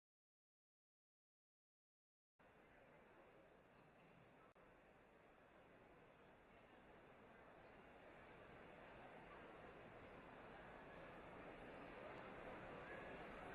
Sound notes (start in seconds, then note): 2.8 audience chattering